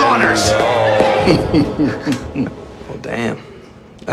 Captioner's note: chuckling